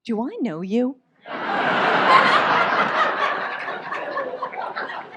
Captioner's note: audience laughs